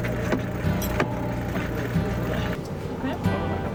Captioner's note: crew chatting in Icelandic; boat motor whirring; calm music